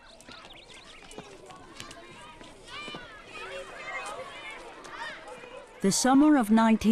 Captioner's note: children laughing and chattering